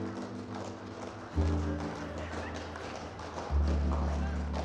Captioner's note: applause; melancholy music